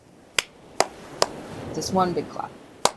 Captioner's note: clap; clap